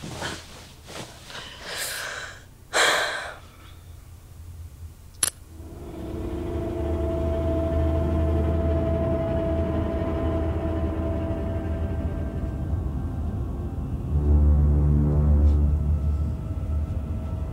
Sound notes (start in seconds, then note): 1.2 exhales; 5.0 power outage click; 15.0 quiet footsteps start walking